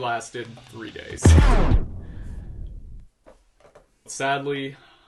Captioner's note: loud boom